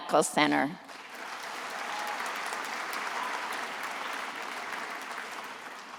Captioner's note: attendees applauding